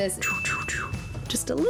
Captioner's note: shooting sounds